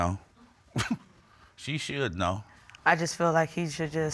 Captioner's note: chuckles